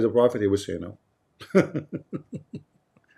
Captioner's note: Ketawa